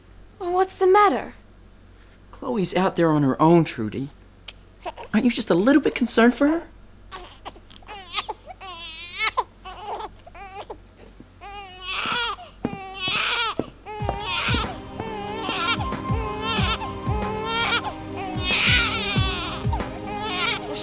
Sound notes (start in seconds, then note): 6.9 Brady cries; 11.3 Brady wails; 11.9 footsteps; 16.4 Brady wails